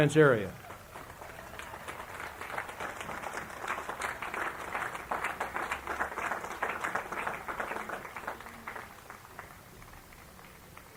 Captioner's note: applause